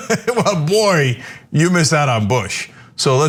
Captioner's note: laugh